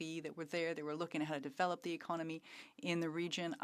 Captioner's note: speaking French